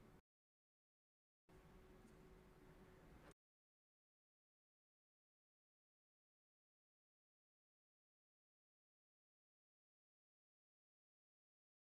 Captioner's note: silence